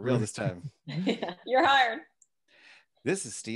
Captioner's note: laughs